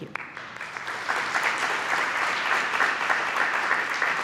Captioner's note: applause